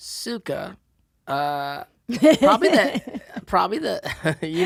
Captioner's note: laughing